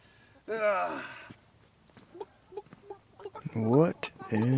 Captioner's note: chickens clucking